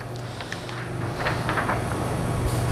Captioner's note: PET film noise